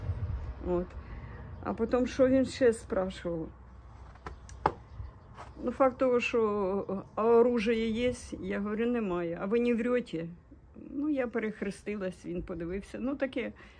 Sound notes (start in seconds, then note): 5.1 in Russian; 9.3 Russian